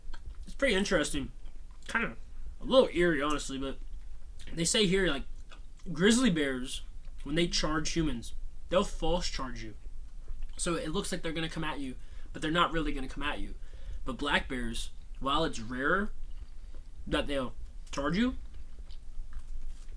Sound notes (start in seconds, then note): none